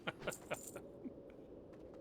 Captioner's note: laughs